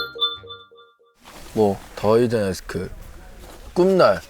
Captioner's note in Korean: 띠링